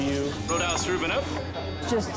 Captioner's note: bell dings